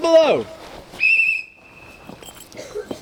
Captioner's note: whistle blows